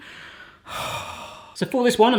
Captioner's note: heavy breathing